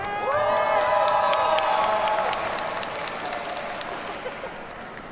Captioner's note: audience cheers and applauds